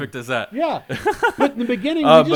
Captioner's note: giggling